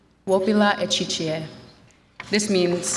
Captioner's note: speaks in Lakota language